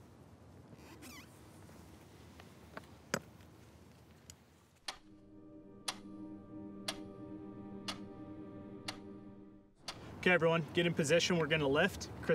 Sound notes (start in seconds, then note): 4.2 clock ticking